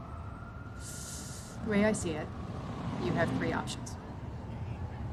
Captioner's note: inhales sharply